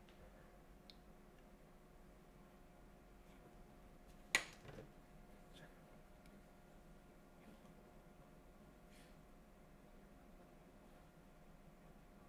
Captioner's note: silence